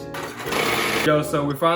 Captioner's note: machine whirring